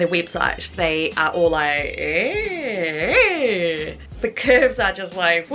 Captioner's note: weird noises from my mouth as imagine what an hourglass would sound